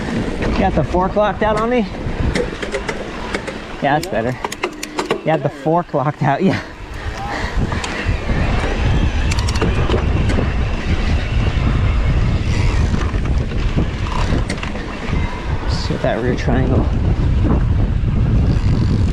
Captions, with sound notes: You got the forked locked out on me? - Yeah. - That's better. You had the fork locked, yeah. (bike humming) (dirt rustling) Let's get that rear triangle.